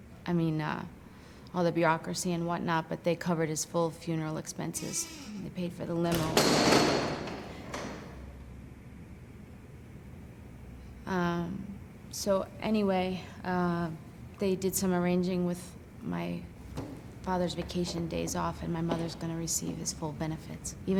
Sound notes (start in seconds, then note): 6.4 loud crashing sound